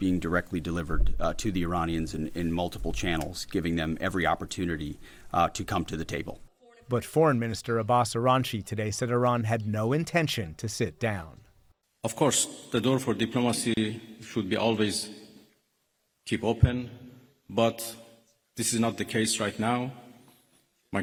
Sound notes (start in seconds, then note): 7.2 voice-over